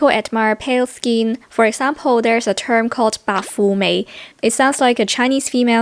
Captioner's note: Cantonese